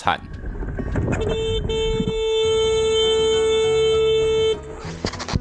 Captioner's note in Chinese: 逼逼逼